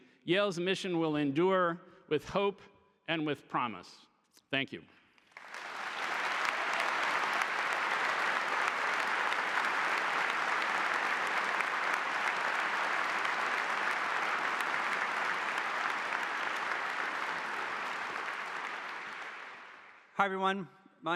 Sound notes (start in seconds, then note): 5.7 audience applauding